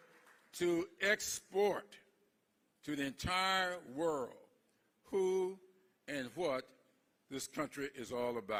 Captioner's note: applause